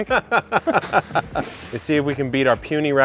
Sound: laughing

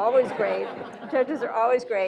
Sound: audience laughing

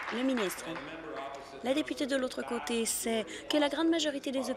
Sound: applause

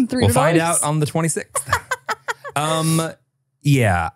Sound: laughs

